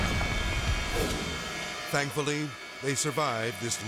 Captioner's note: jet crashing; air whoosh